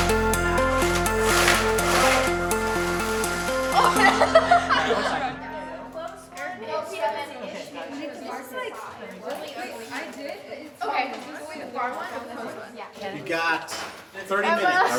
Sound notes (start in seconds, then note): 0.7 robots revving; 2.2 teammates laughing and talking